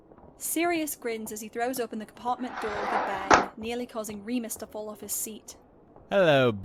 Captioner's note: door opens